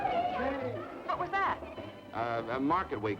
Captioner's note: on telephone